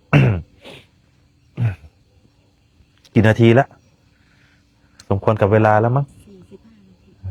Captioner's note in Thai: เสียงสูดหายใจ